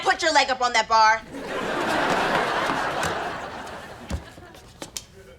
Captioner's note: audience laughter